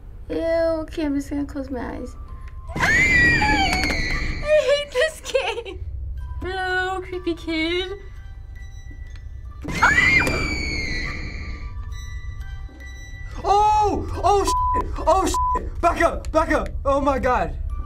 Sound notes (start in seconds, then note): 2.7 both shriek; 5.6 lullaby music; 9.7 both shriek; 11.7 lullaby music